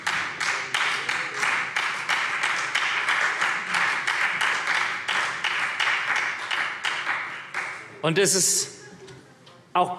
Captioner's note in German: Beifall